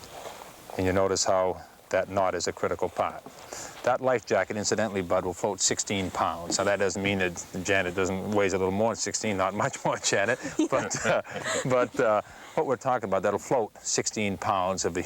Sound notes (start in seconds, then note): 9.6 all laughing